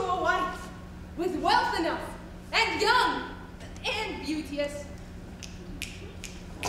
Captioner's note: snapping